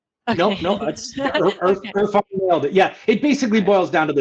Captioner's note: chuckles